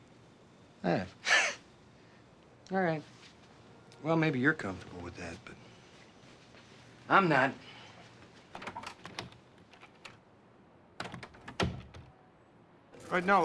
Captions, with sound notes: Ah. (laughs) All right. Well, maybe you're comfortable with that, but I'm not. (door opens) (door closes)